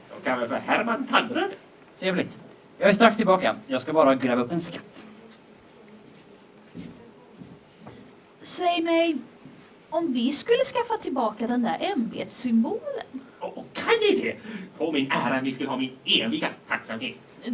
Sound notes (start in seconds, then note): none